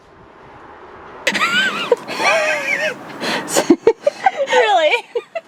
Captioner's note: laughter